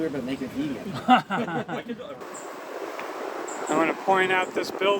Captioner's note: laughing